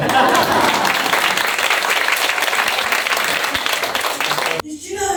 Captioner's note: applause